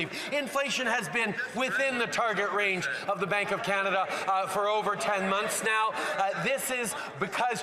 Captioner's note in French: voix de l'interprète